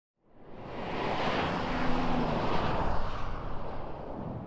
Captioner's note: traffic whizzing